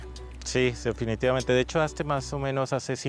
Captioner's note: speaking Spanish